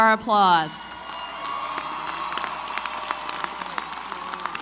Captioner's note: applause